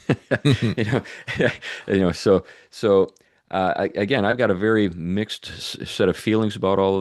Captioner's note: laughs